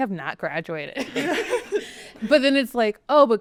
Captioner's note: everyone laughing